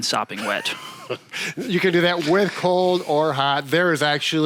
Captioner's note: chuckling